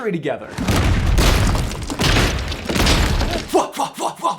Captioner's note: loud crashes